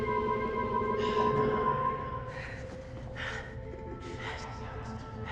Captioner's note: voice echoing